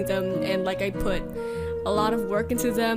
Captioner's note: inhale